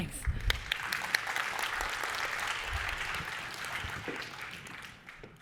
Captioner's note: audience clapping